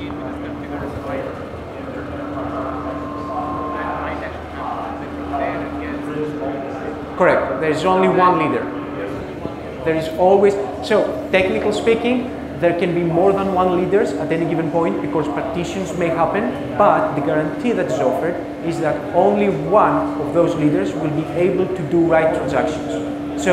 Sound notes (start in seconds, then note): 4.1 audience speaks softly